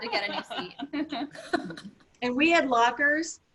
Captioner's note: laughter